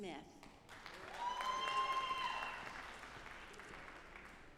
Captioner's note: audience applauding